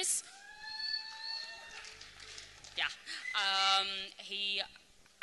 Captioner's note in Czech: potlesk